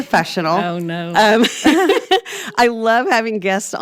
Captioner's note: both laughs